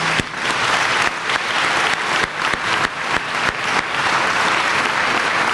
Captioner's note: applause